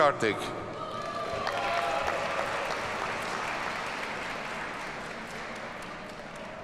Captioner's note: audience cheers and applauds